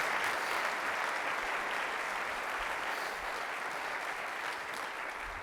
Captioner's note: clapping